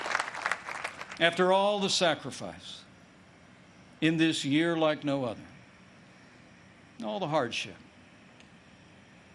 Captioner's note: applause